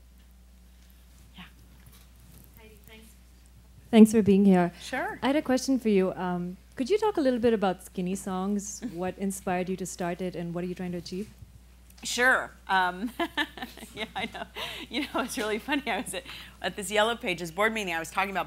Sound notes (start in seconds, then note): 13.0 laughing